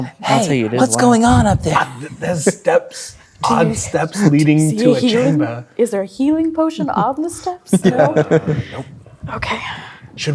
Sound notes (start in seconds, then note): 7.7 players laughing